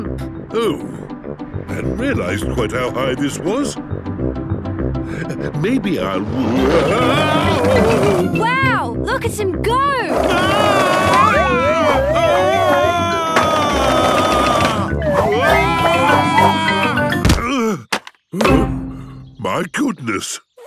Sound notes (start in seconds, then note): 10.2 shouting; 17.9 panting